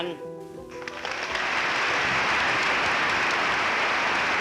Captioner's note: audience claps